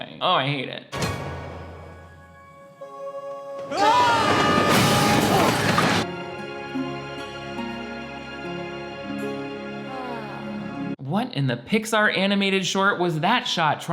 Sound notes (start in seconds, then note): 1.1 emotional music; 3.6 Rajit and Linda screaming; 6.3 emotional music